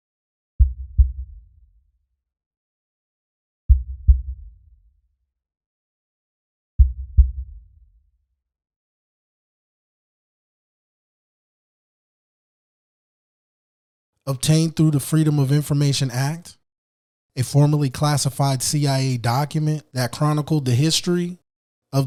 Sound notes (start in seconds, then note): 3.6 heart beating